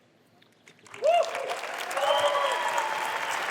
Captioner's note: applause